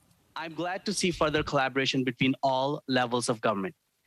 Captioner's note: speaking French